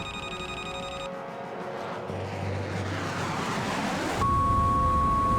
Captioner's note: aircraft whirring; radio beeps